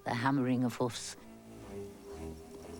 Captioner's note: horse galloping